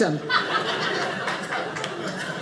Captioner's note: audience laughing